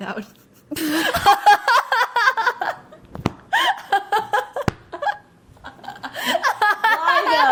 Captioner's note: laughs